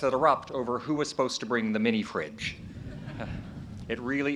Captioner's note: chuckles